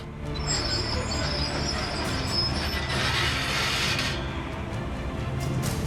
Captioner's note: track creaking